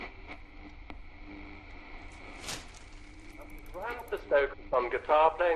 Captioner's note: radio tuning